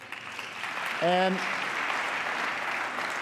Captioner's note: applause